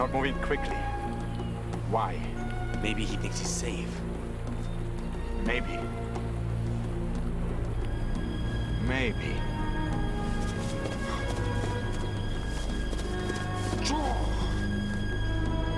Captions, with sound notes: - They're not moving quickly. Why? - Maybe he thinks he's safe. - Maybe. Maybe. (running footsteps)